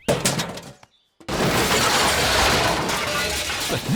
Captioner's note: garbage clattering